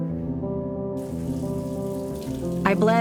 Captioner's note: water running